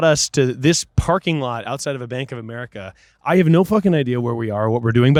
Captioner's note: none